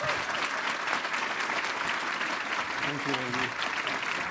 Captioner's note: audience applauding and cheering